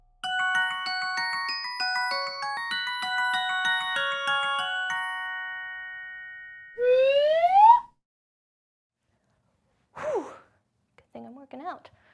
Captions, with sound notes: (gentle music box music) (whistle sliding) - (sighs) Good thing I'm working out.